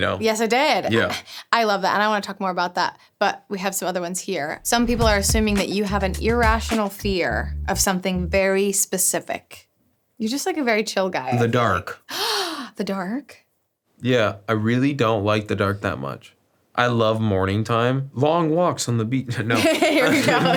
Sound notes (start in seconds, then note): 12.1 gasps; 19.5 laughs